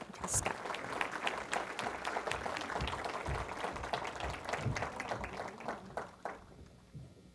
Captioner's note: applause